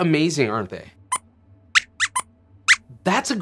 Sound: squeaks squeaks

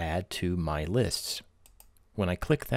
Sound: clicking

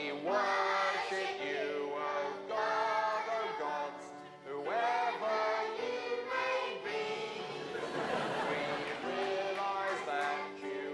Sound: applause; laughter

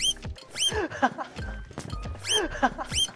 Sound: laughing

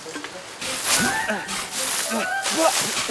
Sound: grunting

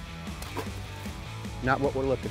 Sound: water splashes

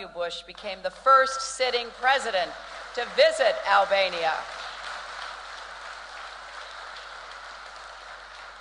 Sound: applause

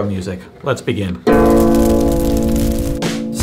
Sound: burning sounds

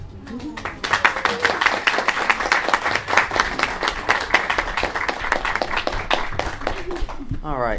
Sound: applause

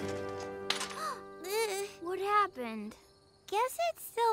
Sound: Hogi gasps and exclaims

